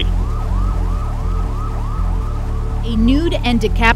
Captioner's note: sirens